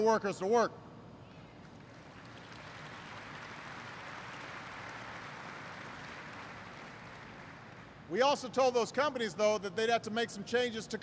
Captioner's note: applause